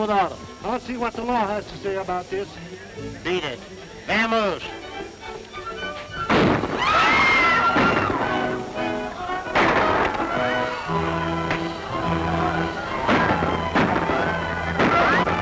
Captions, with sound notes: I'll see what the law has to say about this. Beat it. Vamoose. [gun shots] [screaming] [gun shots]